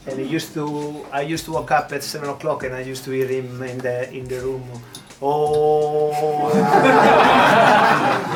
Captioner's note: imitates sound of meditation; laughter